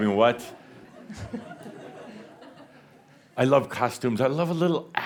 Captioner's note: a few chuckles